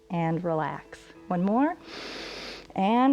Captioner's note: inhales